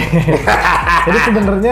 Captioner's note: laugh